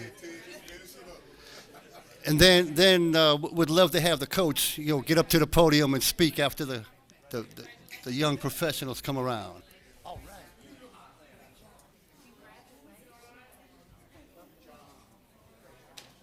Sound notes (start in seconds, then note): 1.4 laughter